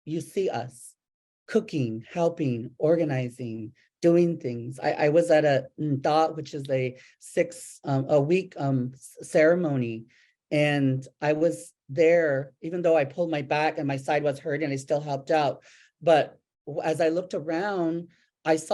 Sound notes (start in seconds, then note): 5.6 speaking in Native language